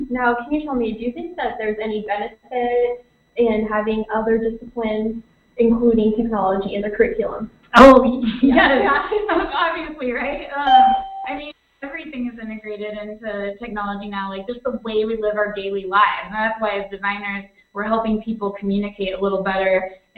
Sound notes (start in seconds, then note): 8.2 laughter